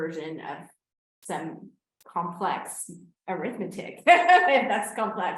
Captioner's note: laughs